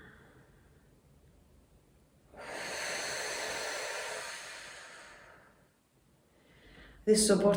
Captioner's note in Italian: sospiri